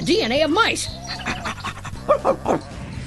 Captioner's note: pants and barks